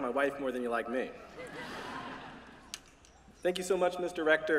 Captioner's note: laughter